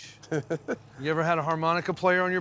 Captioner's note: chuckles